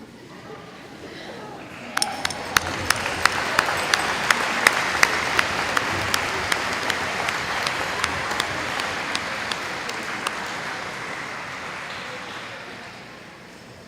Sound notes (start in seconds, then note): 1.6 applause